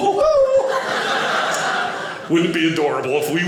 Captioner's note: audience laughing